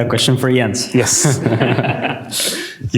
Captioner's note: laughter